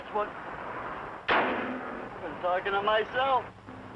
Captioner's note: hood slams